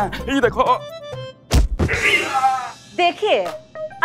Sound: falls

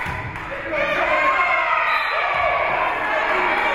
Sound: spectators shouting encouragements; spectators cheering; whistle being blown; spectators cheering and applauding

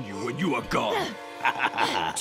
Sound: chuckles

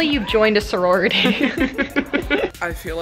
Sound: both laugh

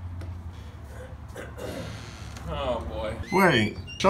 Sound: soft creek

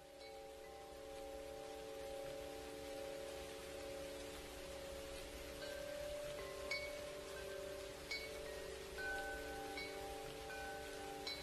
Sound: wind chimes and rain

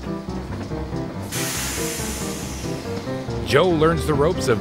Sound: train rumbling

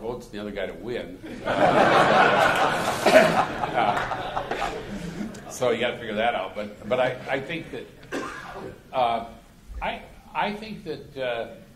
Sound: laughter

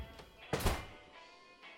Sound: door slams

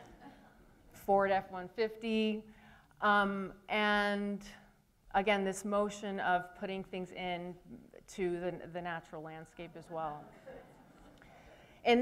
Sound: laughter

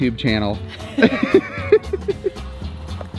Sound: both laughing; upbeat music

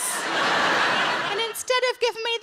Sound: audience laughs

